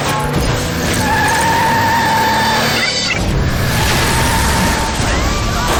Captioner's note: tires screeching; woman screams